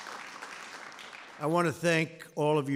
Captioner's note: applause